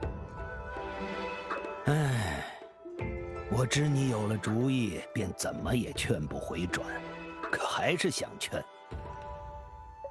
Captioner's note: sigh